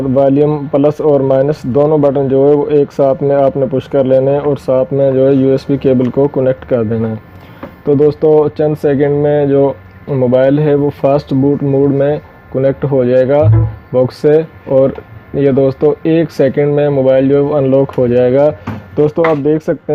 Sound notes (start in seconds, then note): 13.4 beep